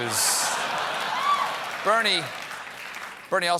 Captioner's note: applause